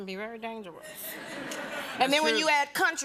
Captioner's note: laughter